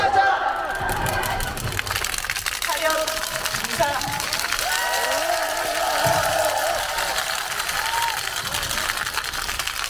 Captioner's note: applause